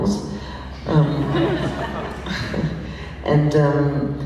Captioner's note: laughs